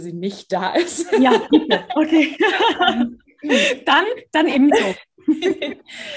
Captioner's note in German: lachen